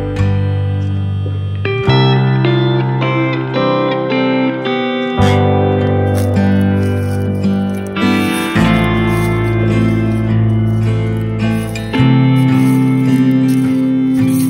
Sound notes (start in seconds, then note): 8.6 walking with barefeet on a wooden surface on crunchy fallen leaves